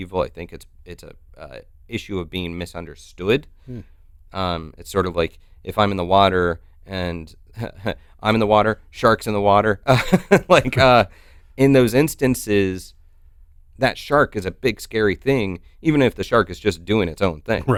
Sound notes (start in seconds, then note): 9.9 chuckles